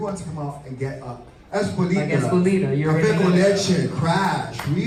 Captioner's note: speaking Spanish